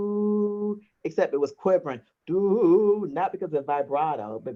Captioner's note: hums a note